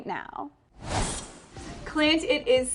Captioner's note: logo whooshes